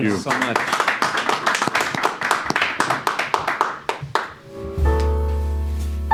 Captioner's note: crew and panel applaud